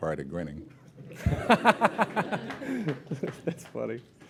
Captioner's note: laughter